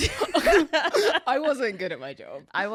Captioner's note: laughing